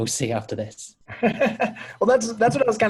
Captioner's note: laughing